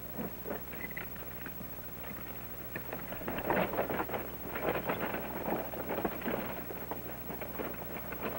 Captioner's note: sound of horse and wagon approaching